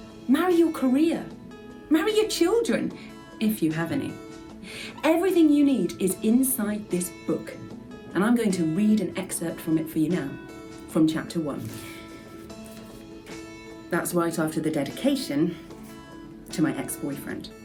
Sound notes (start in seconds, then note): none